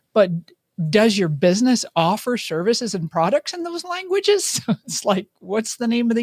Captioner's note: laughs